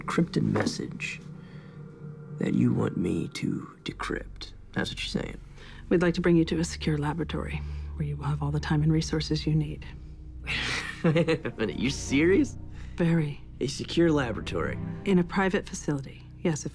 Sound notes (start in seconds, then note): 10.5 chuckling